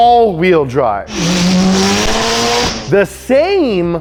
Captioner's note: engine roaring